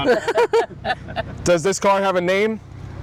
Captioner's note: laughter